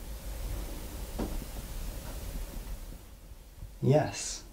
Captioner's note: gentle tapping